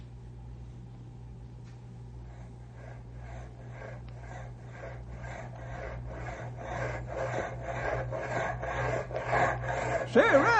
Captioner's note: panting